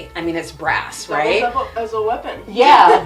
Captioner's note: laughs